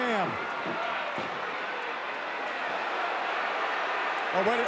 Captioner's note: audience cheering